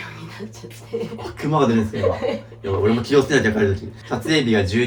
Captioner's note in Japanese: 笑い